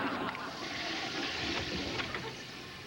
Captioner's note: toilet flushing